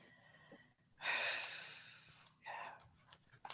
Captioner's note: sighs